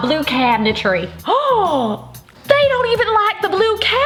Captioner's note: gasps